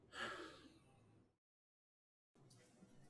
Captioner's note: Alan sighs